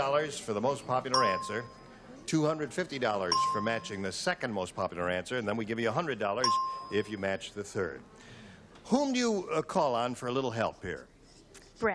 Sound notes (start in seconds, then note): 1.1 ding; 3.3 ding; 6.4 ding